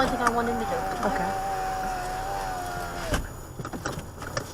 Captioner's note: passenger window rolls up